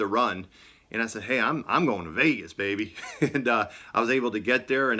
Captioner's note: laughing